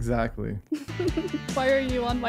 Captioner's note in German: Gelächter